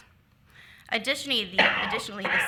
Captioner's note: attendee coughs